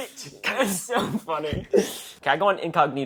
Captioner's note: laughs